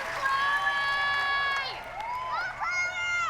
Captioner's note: whooping